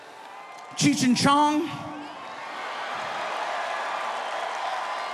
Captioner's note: audience cheering